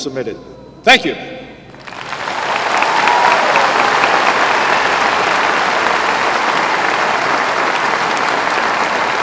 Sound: applause

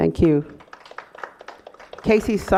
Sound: applause

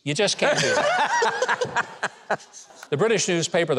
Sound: laugh loudly

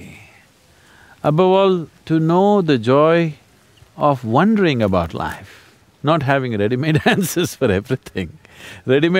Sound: laughs

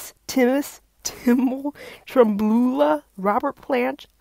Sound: laughing

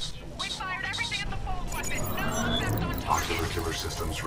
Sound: radio

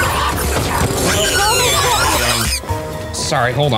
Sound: Murder Monkey screeching

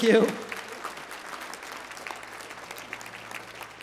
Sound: applause

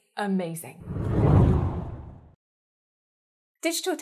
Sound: hard whooshing

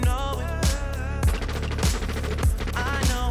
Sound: rapid gunfire

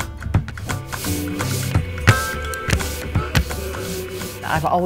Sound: paint brush strokes

